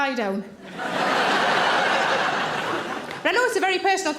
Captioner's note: audience laughs